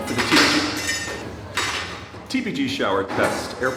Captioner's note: metallic crashing